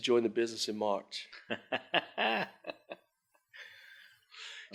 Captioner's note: chuckling